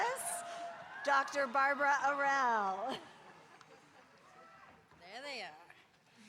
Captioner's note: audience cheering